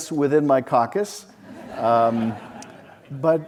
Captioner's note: audience laughs